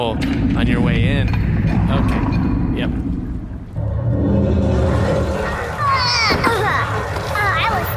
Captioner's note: the beast roars